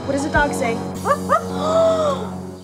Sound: parrot woofing; gasping

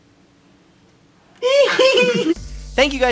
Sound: giggling from under table

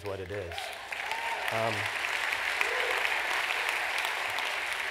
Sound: applause

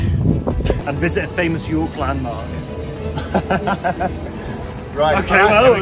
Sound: laughter

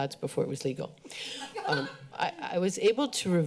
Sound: laughter

